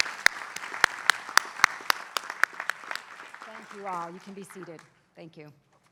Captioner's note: applause